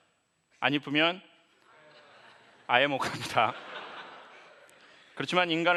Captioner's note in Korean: 웃음